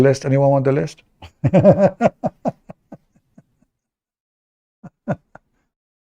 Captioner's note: Ketawa